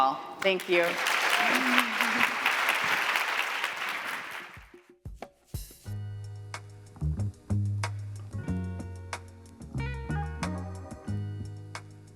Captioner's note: laughter; applause